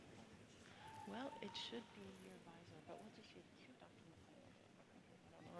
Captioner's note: murmurs